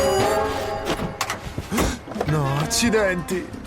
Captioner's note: gasps